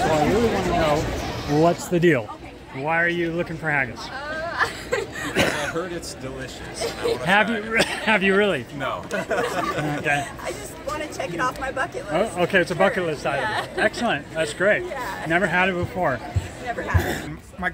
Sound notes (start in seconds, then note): 4.5 laughs; 7.6 coughs; 9.1 laughs